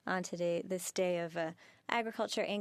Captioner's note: speaking French